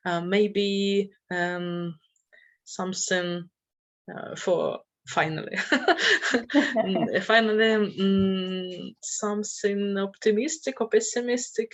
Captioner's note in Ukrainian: сміються